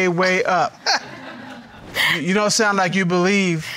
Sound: all laughing

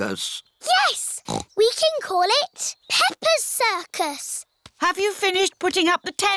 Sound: snorts

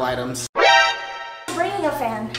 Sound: alarming sound

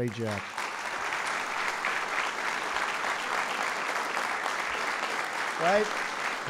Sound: applause

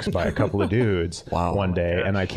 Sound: all chuckling

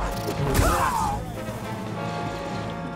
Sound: scream

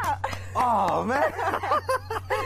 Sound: laughter

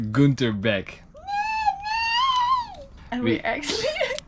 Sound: screeching

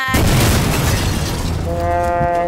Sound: explosion

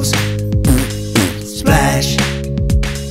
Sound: raspberry mouth fart x2

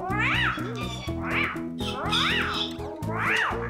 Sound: squeaking

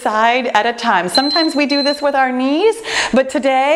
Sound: timer beeping

